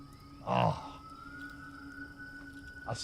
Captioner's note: ethereal music playing; groans